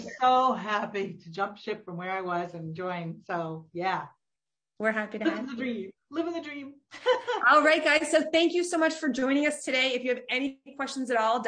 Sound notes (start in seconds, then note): 7.2 laughs